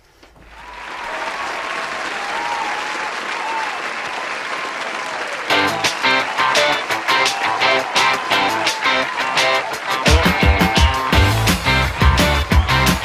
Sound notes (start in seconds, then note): 1.1 applause; 5.4 upbeat music